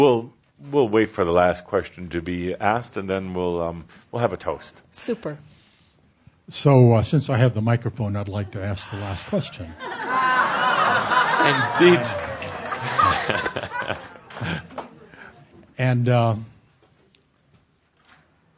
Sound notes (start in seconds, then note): 14.2 laughter